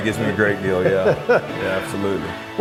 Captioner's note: laughs